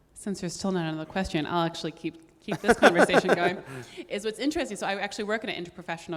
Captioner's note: laughing